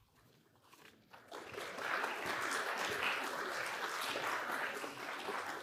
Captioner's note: applause